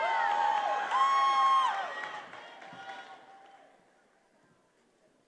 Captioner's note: attendees applauding and cheering